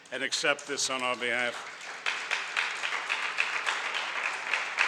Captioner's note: audience applauds